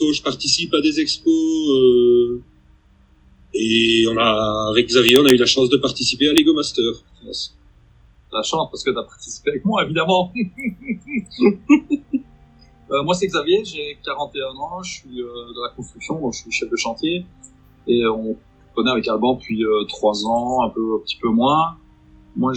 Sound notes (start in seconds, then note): 12.3 laughs